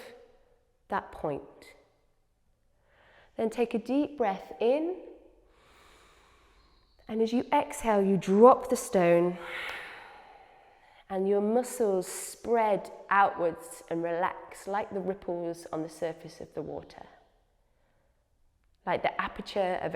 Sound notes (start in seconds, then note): 5.6 inhales; 9.4 exhales